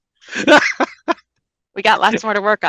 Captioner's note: laughs